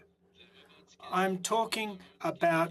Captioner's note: speaking French